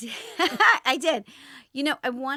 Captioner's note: laughs